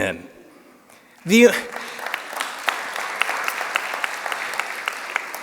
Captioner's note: applause